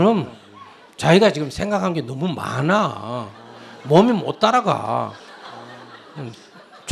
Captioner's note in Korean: 청중 웃음